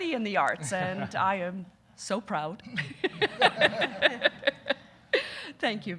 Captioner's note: laughing